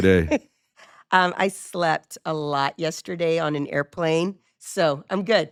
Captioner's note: chuckles